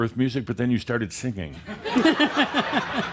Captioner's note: laughter